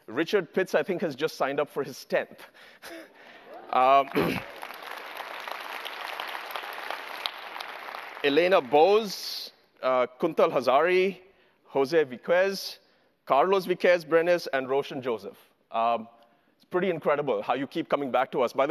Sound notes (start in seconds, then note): 3.7 applause